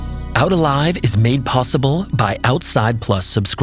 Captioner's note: soft bright music; voiceover